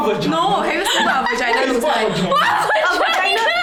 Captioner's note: incoherent laughter and noises